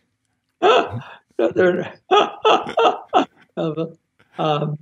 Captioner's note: laughing